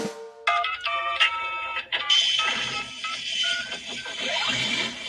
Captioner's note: drum roll; electronic beeping